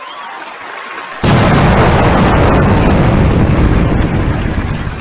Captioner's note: bomb blasting